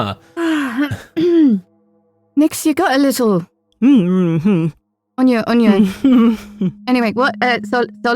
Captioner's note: giggles through a mouthful of klixen